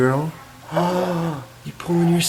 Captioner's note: gasping